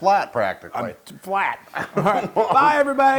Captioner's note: laugh